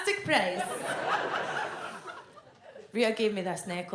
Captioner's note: audience laughs